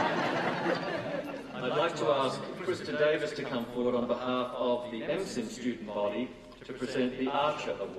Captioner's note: laughter